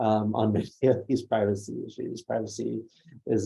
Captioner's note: laughs